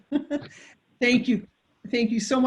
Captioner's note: laughs